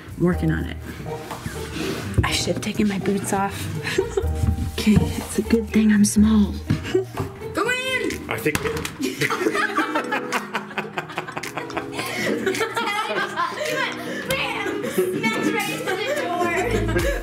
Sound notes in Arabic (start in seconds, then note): 6.8 يضحكون; 9.0 كل يضحك